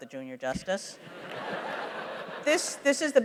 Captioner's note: laughter